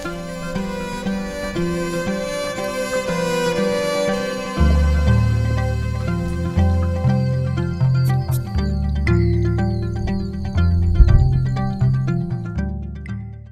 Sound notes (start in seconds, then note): 7.4 frogs calling; 10.9 thunder